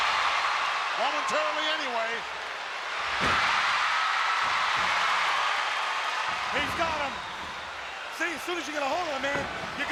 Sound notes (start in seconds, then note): 3.0 crowd cheering